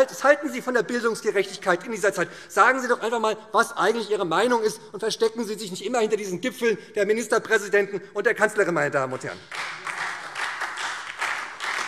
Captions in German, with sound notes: Was halten Sie in dieser Zeit vom Thema Bildungsgerechtigkeit? Sagen Sie doch einmal, was Ihre Meinung ist, und verstecken Sie sich nicht immer hinter den Gipfeln der Ministerpräsidenten und der Kanzlerin. [Beifall SPD]